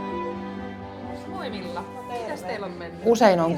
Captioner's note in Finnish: Keskustelua taustalla